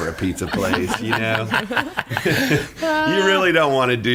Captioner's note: laughing